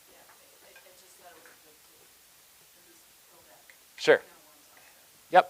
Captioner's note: woman speaking quietly